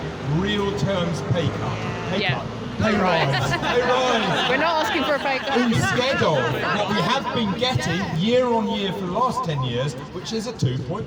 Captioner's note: laughter